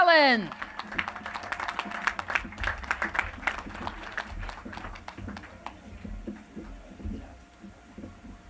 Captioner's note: applause